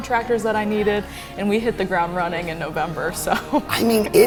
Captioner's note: laughs